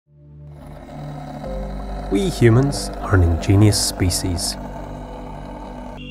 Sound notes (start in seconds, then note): 0.1 pensive music; 0.5 top spinning